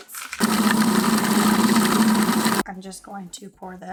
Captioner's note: whirring